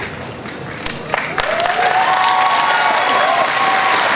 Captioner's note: crowd cheers and applauds